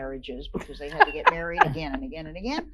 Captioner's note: laugh